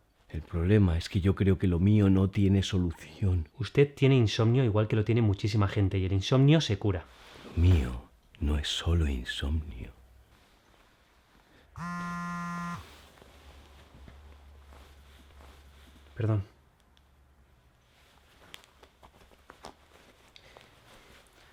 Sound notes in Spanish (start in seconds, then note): 11.7 Vibra un movil